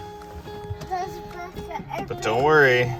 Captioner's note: child baby-talking